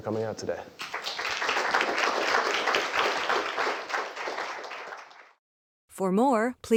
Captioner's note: applause